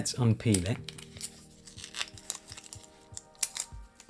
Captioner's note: plastic rustling